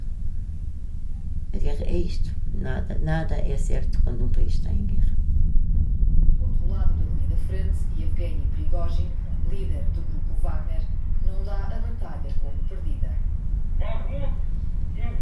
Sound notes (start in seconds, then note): 8.4 TV playing news about war in Ukraine